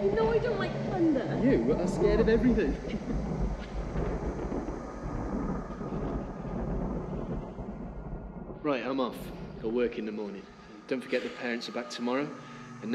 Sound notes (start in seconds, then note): 4.0 thunder rumbling